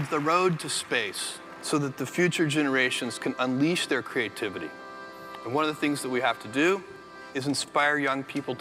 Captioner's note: applause